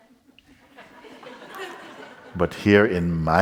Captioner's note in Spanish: Risas